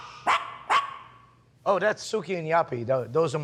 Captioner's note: dogs barking